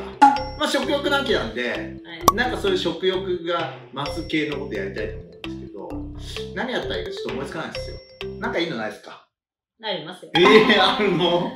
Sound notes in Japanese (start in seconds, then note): 2.2 ポッ（コルク栓を抜くの音）